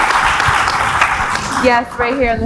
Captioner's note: laughs